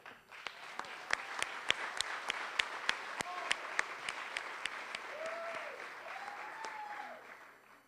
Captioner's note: applause